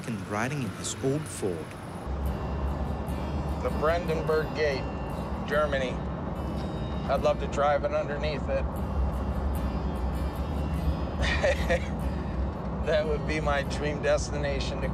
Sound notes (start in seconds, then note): 1.9 cheery music continues; 11.2 laughs